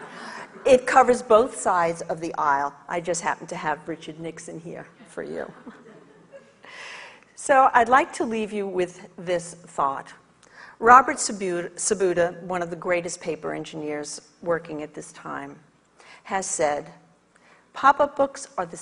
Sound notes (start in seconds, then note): 0.0 audience laughs; 5.6 audience laughs